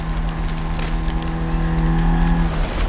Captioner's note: tree snapping